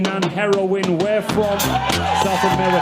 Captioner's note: audience cheers